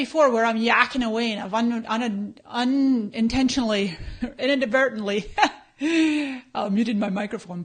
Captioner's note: laughs